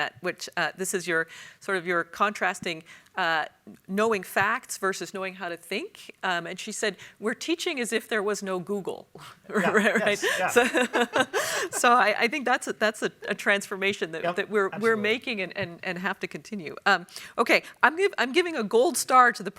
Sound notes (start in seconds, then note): 9.8 panel chuckles